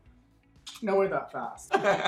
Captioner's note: kissing